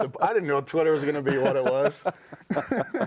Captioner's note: both laughing